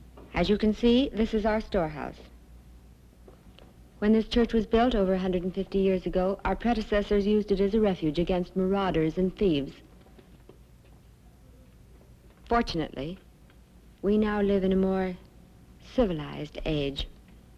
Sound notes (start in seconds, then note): none